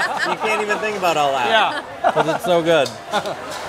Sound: laughter

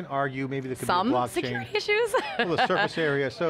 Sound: laughs

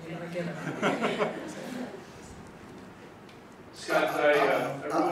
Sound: audience laughing

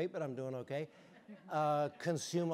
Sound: audience chuckling

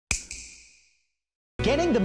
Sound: snap

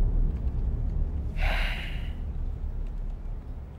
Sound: sighing

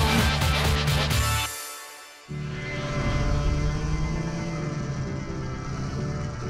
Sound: upbeat music; engine noises

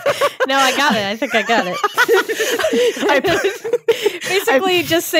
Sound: both laughing

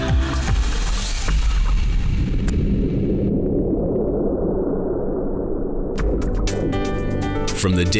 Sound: thunderous earthquake sound

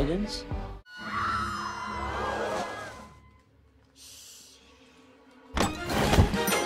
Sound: screaming in movie

